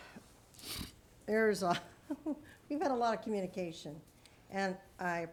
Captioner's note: chuckles